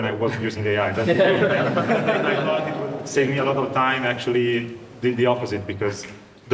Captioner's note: audience laughing